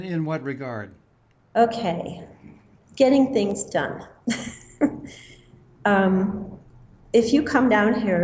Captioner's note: laughter